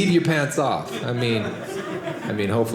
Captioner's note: audience laughing